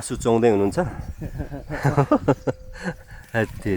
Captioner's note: laughter